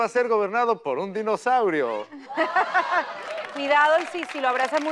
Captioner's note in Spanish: Ríe